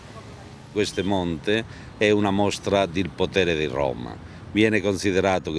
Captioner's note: speaking Italian